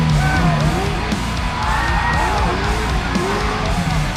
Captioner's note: fans cheering